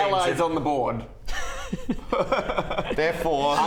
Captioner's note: defeated laugh